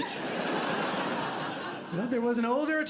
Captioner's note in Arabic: ضحك